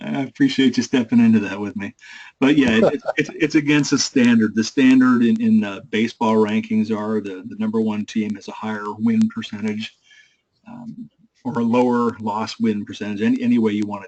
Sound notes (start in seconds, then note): 3.3 laugh